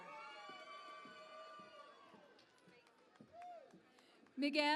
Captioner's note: cheering and Applause